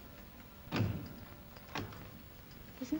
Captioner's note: door closes